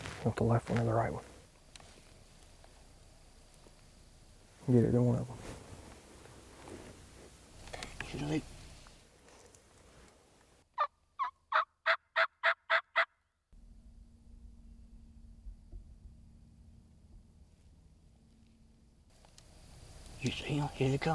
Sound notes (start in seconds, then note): 7.8 bird caller chirping